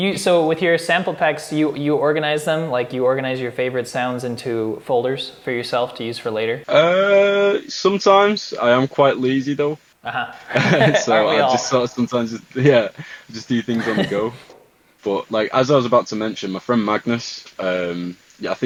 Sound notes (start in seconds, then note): 10.0 laughing